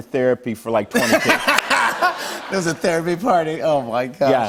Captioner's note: laughs